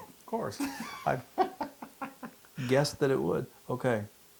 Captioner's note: laugh